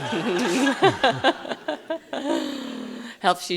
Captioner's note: laughs happily